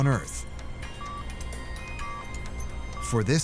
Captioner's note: machine continues beeping